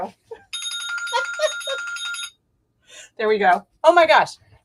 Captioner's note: bell rings